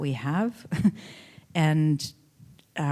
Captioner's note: chuckling